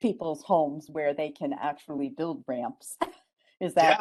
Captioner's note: laughs